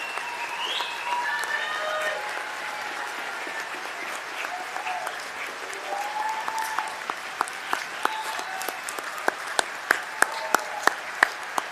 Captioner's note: cheers and applause